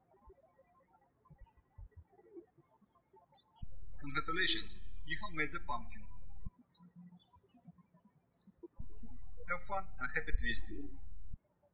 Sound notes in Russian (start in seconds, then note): 0.3 птички щебечут; 8.8 птички щебечут